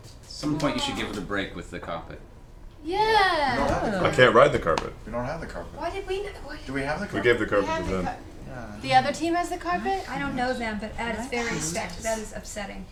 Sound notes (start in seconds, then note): none